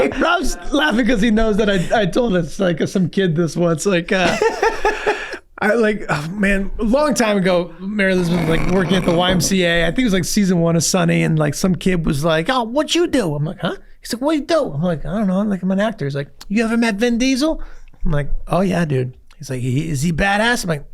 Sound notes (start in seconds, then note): 4.2 Rob laughs